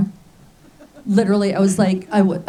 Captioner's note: laughs